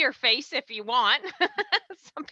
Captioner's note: laughs